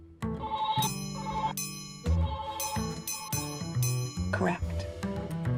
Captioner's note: dings